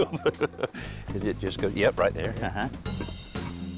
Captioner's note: laughs